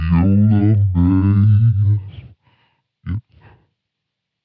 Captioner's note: deep Voice